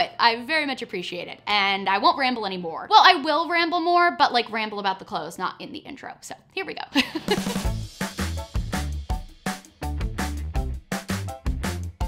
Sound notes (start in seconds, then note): 7.0 upbeat music; 7.0 laughs